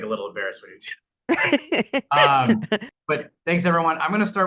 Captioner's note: laughs